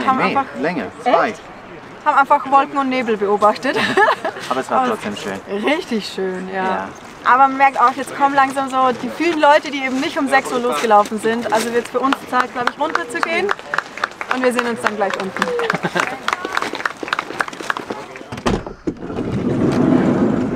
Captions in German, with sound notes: Ne, mehr! Zwei Stunden. Echt?! Und wir haben einfach Wolken und Nebel beobachtet. [Lachen] Aber es war trotzdem schön. Ja, richtig schön! Aber man merkt auch, jetzt kommen langsam die vielen Leute, die eben nicht um 6 Uhr losgelaufen sind. Also wird es für uns Zeit runterzugehen, und wir sehen uns gleich unten.